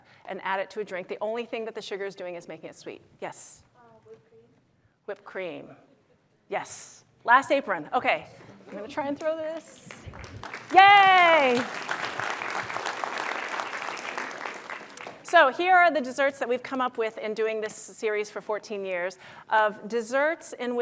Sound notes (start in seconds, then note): 9.5 applause